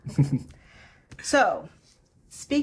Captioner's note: laughing